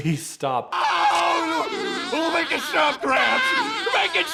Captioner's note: SpongeBob laughing